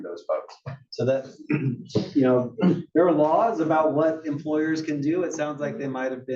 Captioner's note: cough